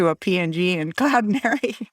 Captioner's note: laughing